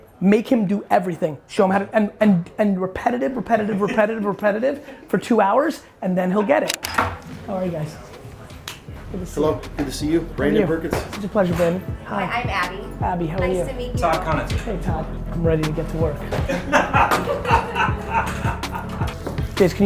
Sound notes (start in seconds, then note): 6.6 camera clicks; 16.2 laughing